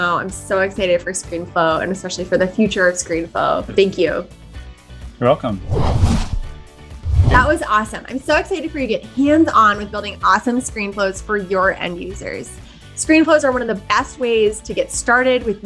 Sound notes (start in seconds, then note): 5.6 whooshing; 6.9 upbeat music